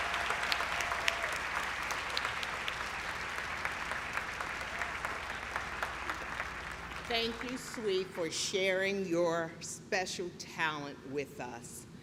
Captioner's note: clapping